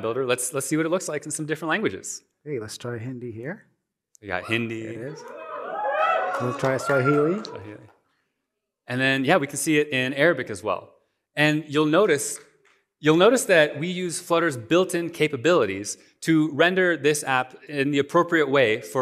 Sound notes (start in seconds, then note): 4.4 cheering